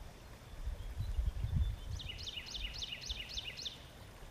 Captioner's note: birds chirping